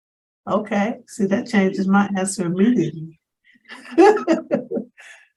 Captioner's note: laughs